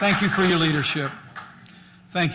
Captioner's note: applause